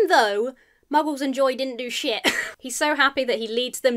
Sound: chuckles

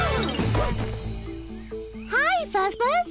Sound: thump!

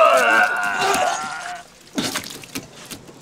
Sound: vomiting

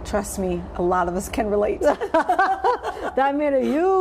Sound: laughter

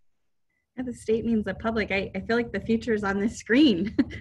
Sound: chuckles

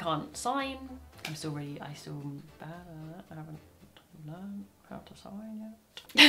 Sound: she stammers and mutters

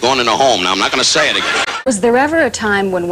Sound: laughter

